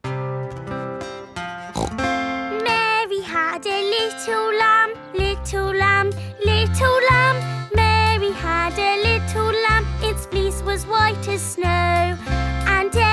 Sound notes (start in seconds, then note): 0.2 playing guitar; 1.7 snorts